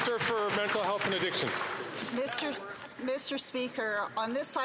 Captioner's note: some Applause